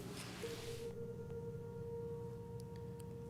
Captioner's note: none